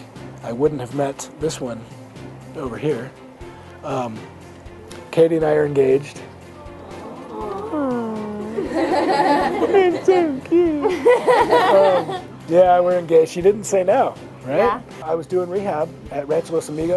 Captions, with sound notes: I wouldn't have met this one over here. Um... Katy and I are engaged. (audience awwing) (all laughing) There's so cute. Yeah, we're engaged, she didn't say no. - Right? - Yeah. - I was doing rehab at Ranchos Amigos.